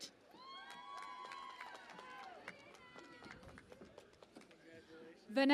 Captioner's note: cheering and Applause